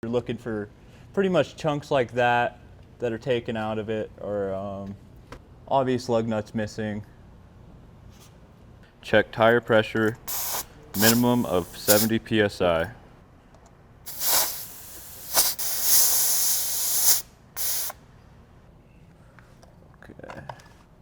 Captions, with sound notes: - You're looking for pretty much chunks like that, that are taken out of it, or all these lug nuts missing. - Check tire pressure, minimum of 70 PSI. (air whooshes) - Okay.